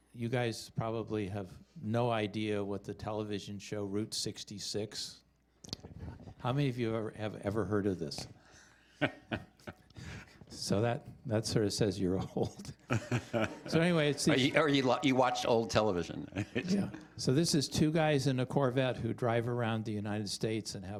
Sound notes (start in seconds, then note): 9.0 chuckling; 12.2 laughter